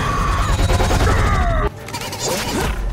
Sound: screaming; grunting

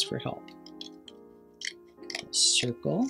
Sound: sounds of scissors cutting paper

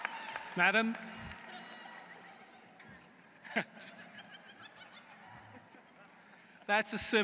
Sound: laughter

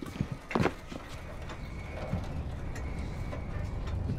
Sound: train grinds into motion

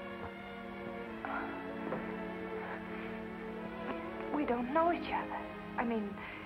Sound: sighs

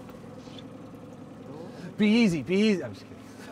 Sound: boat engine idling

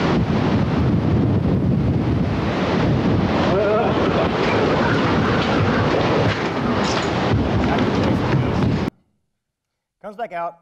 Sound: rushing noise continues, sounds of feet scrambling

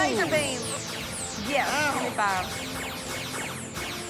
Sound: laser beams continue; mutters

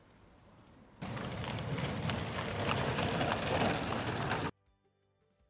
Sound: horse trotting with carriage

